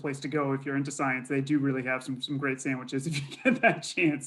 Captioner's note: laughs